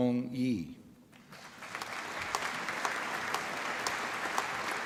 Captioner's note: applause